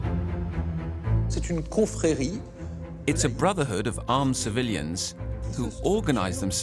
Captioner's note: speaking French